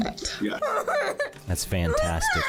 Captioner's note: sobbing